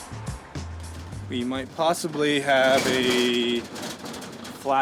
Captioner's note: clattering